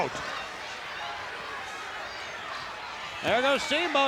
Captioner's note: crowd cheers